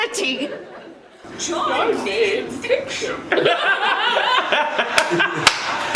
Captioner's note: laughs